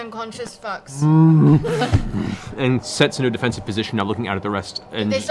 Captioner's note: bear grunts